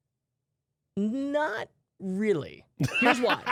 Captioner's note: laughs